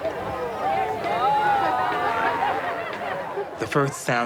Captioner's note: spectators oohing